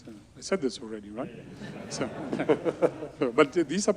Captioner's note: audience laughs